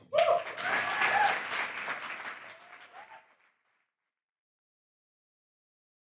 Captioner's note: audience cheers; audience applauds